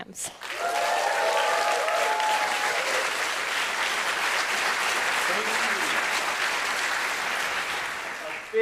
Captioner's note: applause